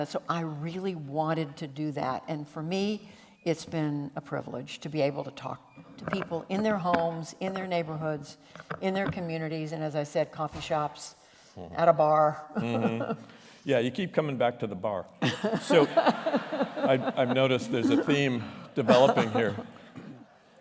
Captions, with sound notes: I really wanted to do that. For me, it's been a privilege to be able to talk to people in their homes, in their neighborhoods, in their communities, and as I said, coffee shops, at a bar. [LAUGHTER] You keep coming back to the bar. [LAUGHTER] I've noticed there's a theme developing here.